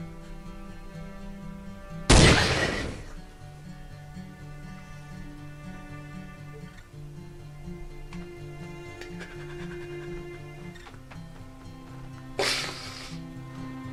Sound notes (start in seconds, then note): 2.1 gun firing; 5.1 gentle music